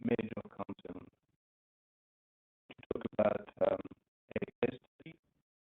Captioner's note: audio blurs